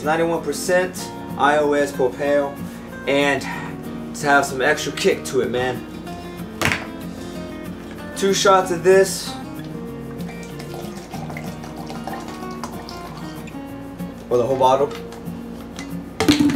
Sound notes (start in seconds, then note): 10.1 pouring noises